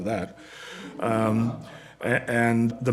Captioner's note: laughter